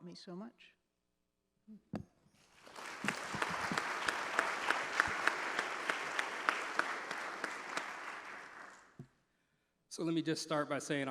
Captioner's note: applause